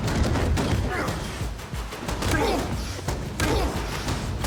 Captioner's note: grunting